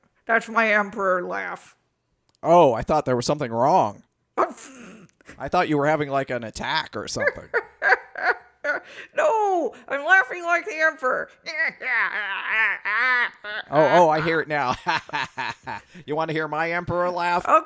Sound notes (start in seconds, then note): 7.2 cackles; 15.4 cackles